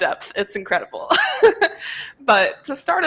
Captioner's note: laughs